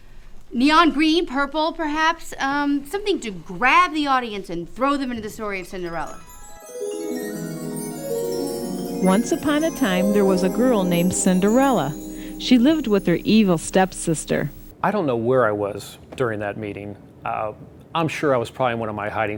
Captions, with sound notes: Neon green, purple perhaps, something that grabs the audience and throws them into the story of Cinderella. (magical chimes) Once upon a time, there was a girl named Cinderella. She lived with her evil step sisters. I don't know where I was during that meeting. I'm sure I was in one of my hiding spots